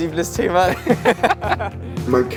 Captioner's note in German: Beide lachen